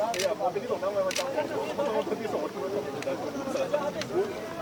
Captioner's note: people chattering in Japanese; camera shutter clicking